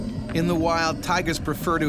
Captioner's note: voiceover